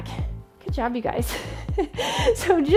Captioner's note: laughs